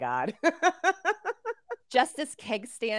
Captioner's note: laughing